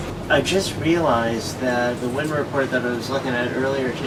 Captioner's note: none